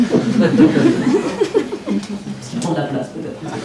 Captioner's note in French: rires